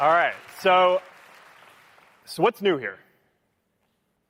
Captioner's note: cheering